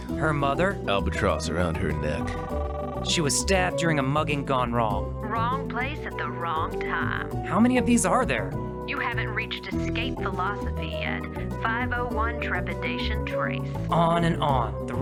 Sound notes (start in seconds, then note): 2.2 phone ringing